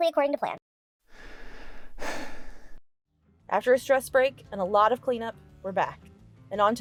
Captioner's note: sigh